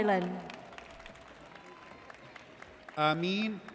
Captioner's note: audience applauds